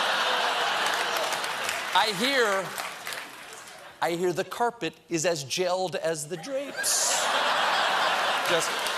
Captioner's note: laughter